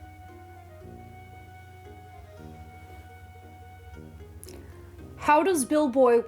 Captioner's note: asparagus sliding noises